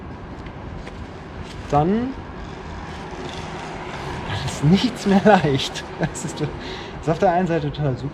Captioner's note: laughs